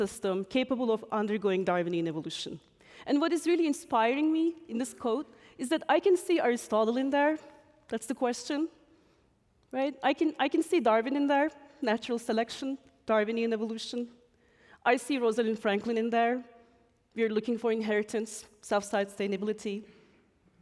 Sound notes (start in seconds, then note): none